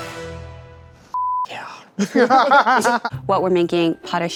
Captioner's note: both laugh